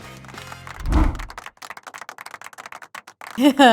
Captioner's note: audience clapping